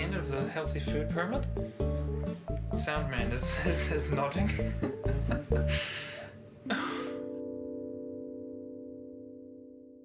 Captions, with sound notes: of the healthy food pyramid? Sound man is nodding. (laughing)